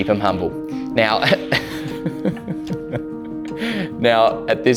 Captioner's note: laughing